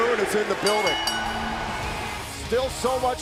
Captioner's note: bell ringing